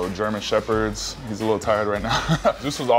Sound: laughs

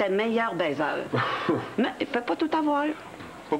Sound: Rire

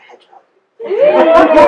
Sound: audience laughter and woos

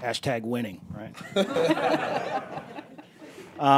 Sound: laughter

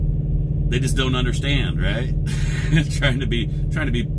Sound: chuckles

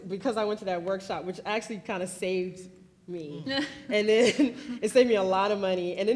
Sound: laughs

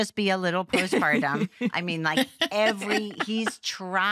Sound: laughter

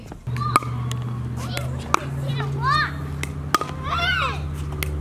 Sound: ball knocks against paddles

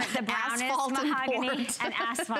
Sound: laughter

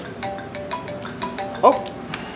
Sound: cell phone rings

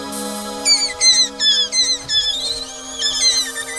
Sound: squeaking

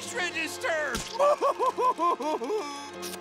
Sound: sobbing

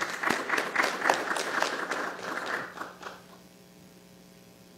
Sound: applause

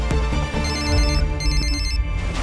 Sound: phone rings

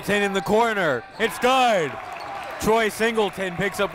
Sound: crowd cheering

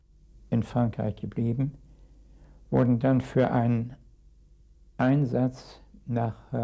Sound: speaking in a foreign language

